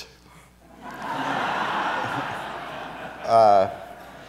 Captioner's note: audience laughs